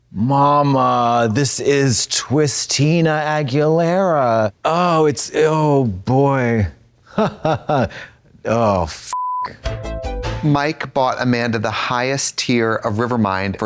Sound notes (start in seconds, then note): 7.2 Katya har-hars; 9.1 beep; 9.6 synth bop